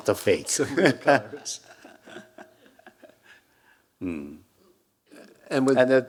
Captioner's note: Hiroshi chuckling; chuckling